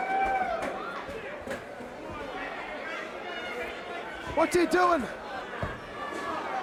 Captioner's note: crowd chatter